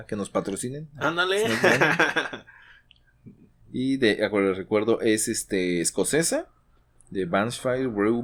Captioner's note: laughs